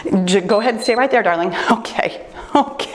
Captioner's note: timer beeps